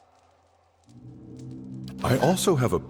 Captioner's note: wind; click